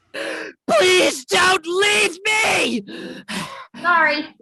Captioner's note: panting